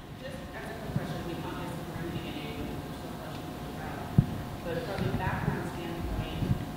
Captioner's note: faintly speaking